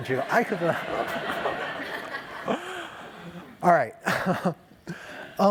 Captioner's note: laugh